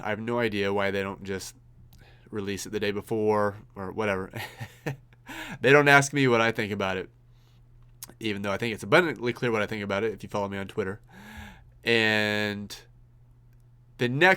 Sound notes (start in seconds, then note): 4.4 laughs